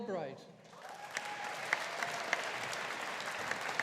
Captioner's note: audience applauding